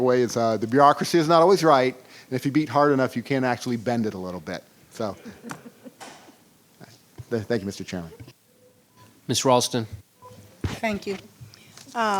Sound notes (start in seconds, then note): 5.2 chuckling